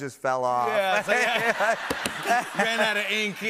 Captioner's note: laughter